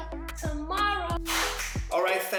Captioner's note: singing; clap and Snap